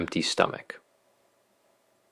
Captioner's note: pause